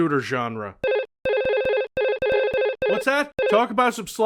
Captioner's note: monitor update sound